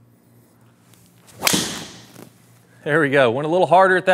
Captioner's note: golf ball bangs